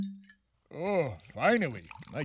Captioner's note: wine bottle opens